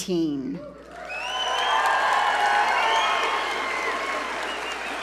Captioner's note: audience cheer and applaud